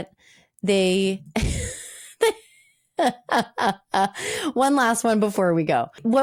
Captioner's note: laughing